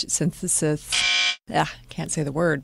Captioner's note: honk